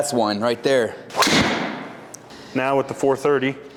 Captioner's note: golf club whacks